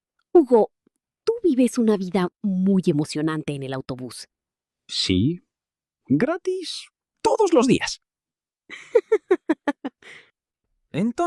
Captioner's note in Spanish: risas